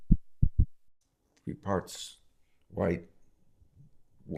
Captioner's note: heart beats fast